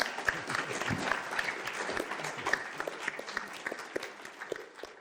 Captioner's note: applauding